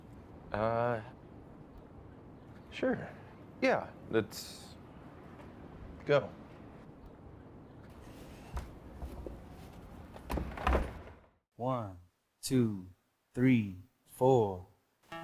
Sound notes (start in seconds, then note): 10.3 door clicks